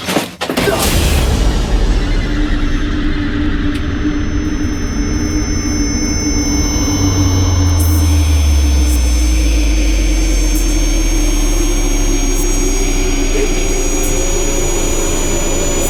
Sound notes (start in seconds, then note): 0.1 haunting music; 7.3 voices whispering